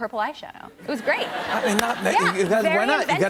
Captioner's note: laughter